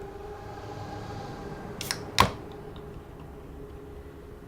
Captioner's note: sound of soda can opening